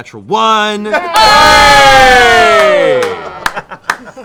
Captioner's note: cheering